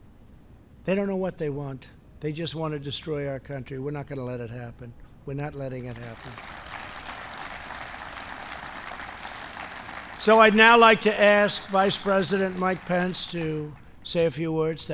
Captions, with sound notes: They don't know what they want. They just want to destroy our country. We're not going to let it happen. We're not letting it happen. (applause) So I'd now like to ask Vice President Mike Pence to say a few words.